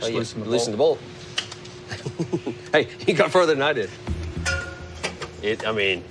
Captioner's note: claps and chuckles